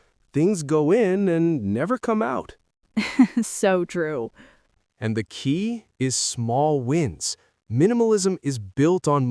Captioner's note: laughs